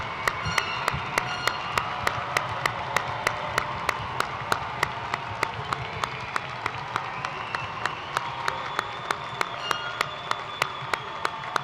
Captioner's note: cheers and applause